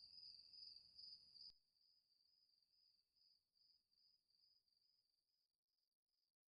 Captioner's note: crickets chirping; chirping continues but quieter; complete silence